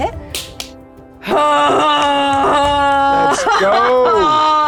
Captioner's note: groans